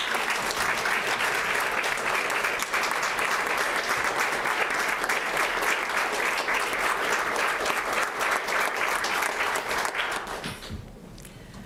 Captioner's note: applause